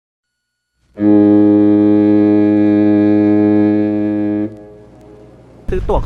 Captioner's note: boat whistle